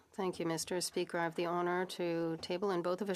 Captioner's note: speaking French